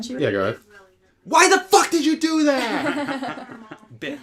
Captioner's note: laughter